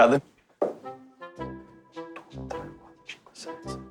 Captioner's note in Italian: Conta sussurrando